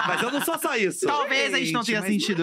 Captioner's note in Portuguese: risos